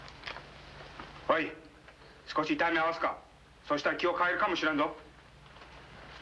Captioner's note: speaking foreign language